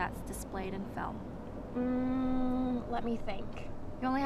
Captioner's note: humming